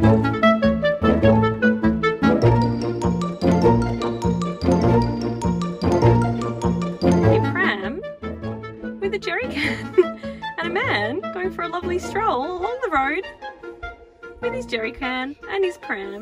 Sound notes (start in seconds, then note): 0.0 upbeat orchestral music; 9.9 laughs